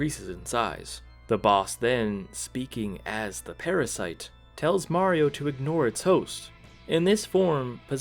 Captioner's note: speaking as the parasite